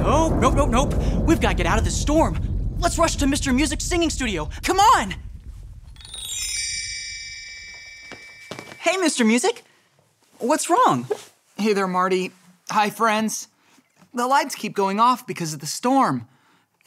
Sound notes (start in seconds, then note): 5.2 thunder rumbling; 6.4 stars twinkling